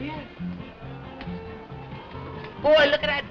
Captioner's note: wind howling outside